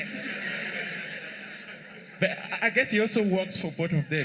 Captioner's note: laughter